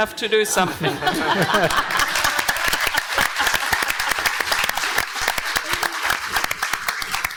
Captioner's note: panel and audience laughing and clapping